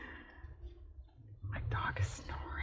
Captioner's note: whispers